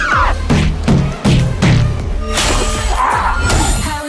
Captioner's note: bodies thudding